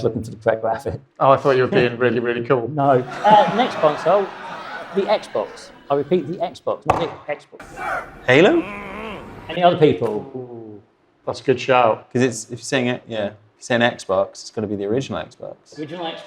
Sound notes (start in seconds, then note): 2.8 audience laughs; 7.1 buzzer sounds